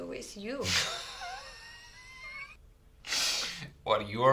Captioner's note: laughing